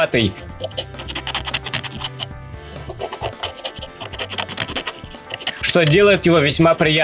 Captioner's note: scraping with a fingernail on fine sandpaper